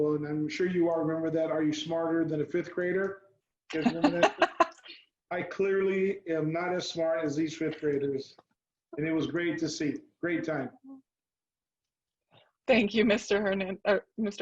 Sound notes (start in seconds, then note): 3.7 laughs